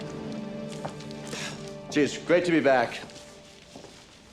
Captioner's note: exhales